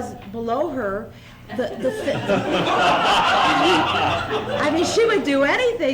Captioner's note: laughter